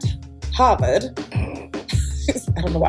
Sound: laughter

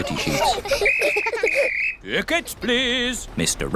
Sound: blows whistle

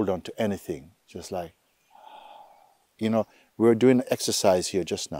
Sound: exhales

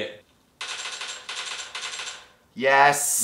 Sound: gunshots

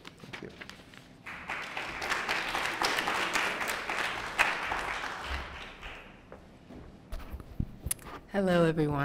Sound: applause

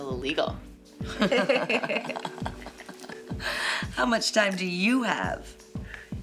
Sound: laughs

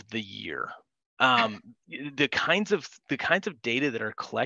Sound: chuckles

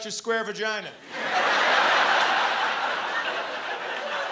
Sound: laughter

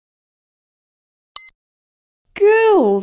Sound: beep!

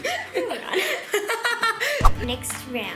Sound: laughs

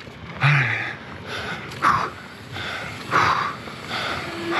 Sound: panting

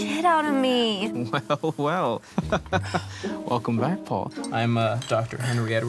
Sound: laughs

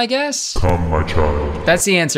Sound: automated Voice

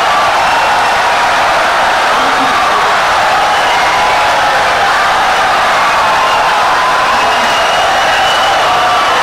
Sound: wild applause and cheering for 17 seconds

